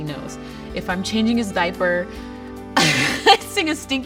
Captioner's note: laughs